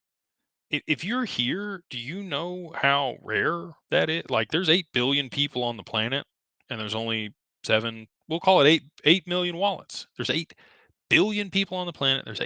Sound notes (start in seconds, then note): none